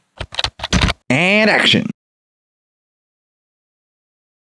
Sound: typing

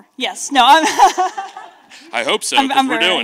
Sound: laughs

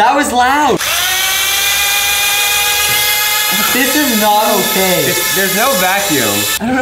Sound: buzzing

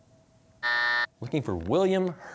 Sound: buzzer

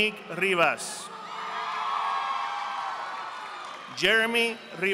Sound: audience applauding

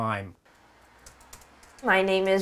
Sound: keyboard sounds

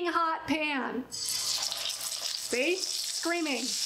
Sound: oil sizzling

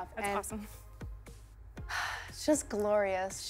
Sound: sighs

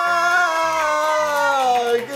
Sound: applause

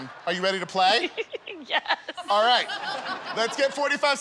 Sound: laughter

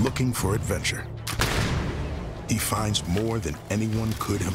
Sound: gunshot

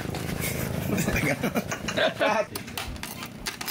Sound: laughs

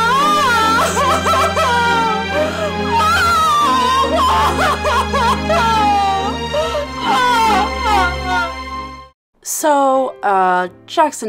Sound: Jackson crying

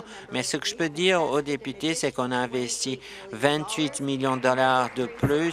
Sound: applause

